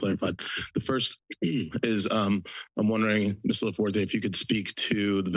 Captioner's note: clears throat